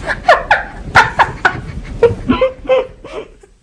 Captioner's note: laughter